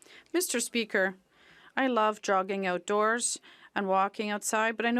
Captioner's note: speaking French